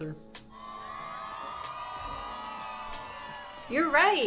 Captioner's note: crowd cheering